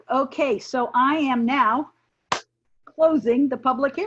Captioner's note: clapping